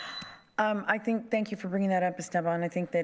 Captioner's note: buzzer